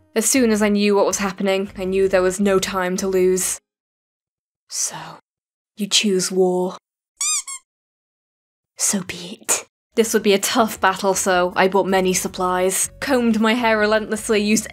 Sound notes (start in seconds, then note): 7.2 squeak :3